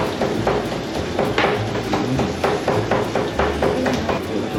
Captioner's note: the sound of chopping beef tripe